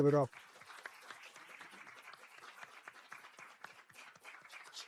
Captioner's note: applause